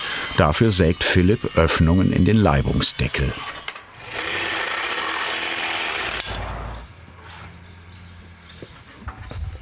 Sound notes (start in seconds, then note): 4.0 rattling; 6.6 birds chirping